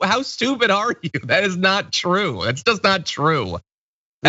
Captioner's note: laugh